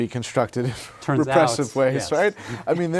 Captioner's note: laughter